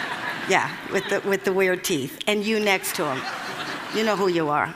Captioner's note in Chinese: Laughter; 笑聲; Laughter; 笑聲